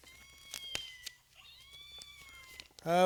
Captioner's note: cat noises